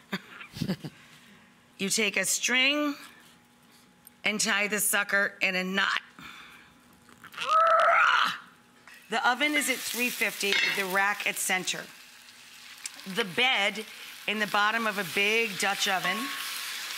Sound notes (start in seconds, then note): 0.5 Rachel and Guest laugh; 7.4 makes primal scream